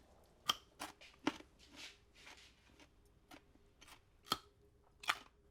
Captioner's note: munches